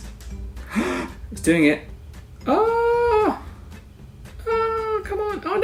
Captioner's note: gasp